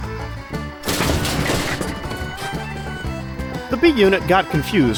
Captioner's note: wham